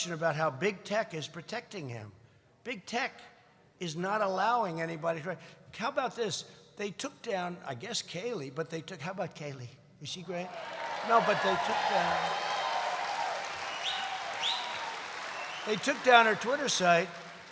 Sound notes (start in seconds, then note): 14.4 applause